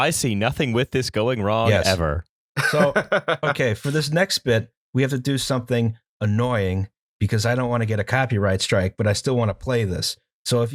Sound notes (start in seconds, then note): 2.6 laughter